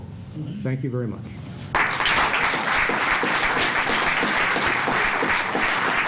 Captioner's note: applause